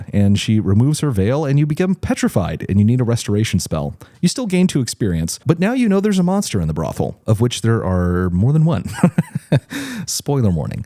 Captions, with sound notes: and she removes her veil, and you become petrified, and you need a restoration spell. You still gained two experience, but now you know there's a monster in the brothel, of which there are more than one. (laughs) Spoiler warning.